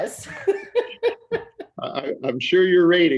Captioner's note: laughing